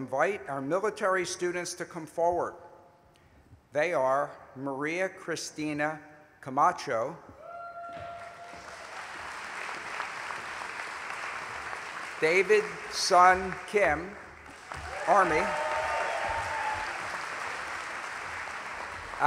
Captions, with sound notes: I ALSO INVITE OUR MILITARY STUDENTS TO COME FORWARD. THEY ARE, MARIA CRISTINA CAMACHO, [ APPLAUSE ]